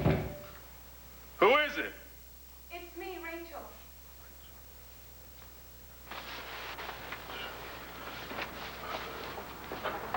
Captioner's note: knock on door